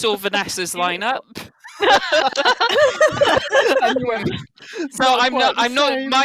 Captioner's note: laughter